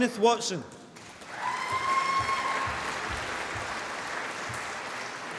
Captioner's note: applause